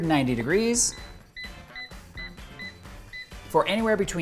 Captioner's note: electronic beeping